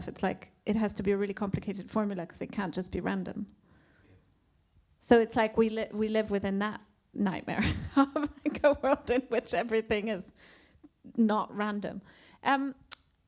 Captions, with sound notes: it's like, it has to be a really complicated formula 'cause it can't just be random. So it's like we live within that nightmare (laughs) of like a world in which everything is not random.